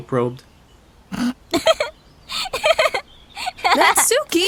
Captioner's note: snickering into laughing